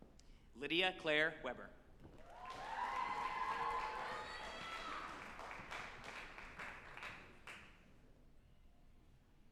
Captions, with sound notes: Lydia Clare Weber, (group applauding and cheering)